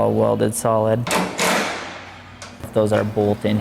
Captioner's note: bolting in hinge sounds